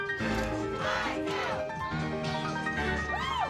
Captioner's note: crowd; cheers